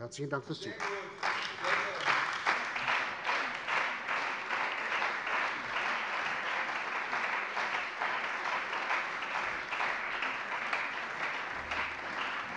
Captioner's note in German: Beifall bei der CDU und dem BÜNDNIS 90/DIE GRÜNEN